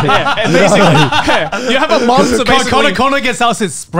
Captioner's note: laughs